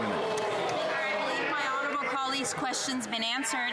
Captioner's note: some Applause